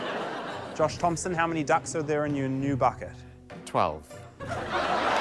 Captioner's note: laughter, applause